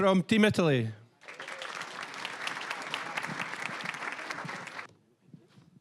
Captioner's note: applause